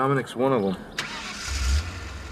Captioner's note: ignition of engine